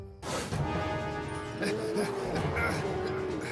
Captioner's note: Sam Panting